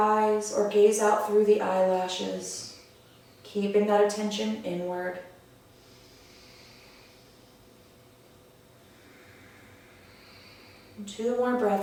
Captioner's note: audible breath